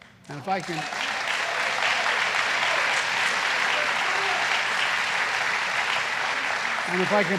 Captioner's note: applause